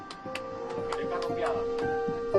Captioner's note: radio playing